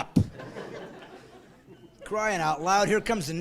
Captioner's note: laughing